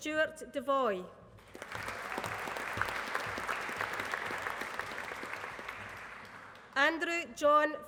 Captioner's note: applause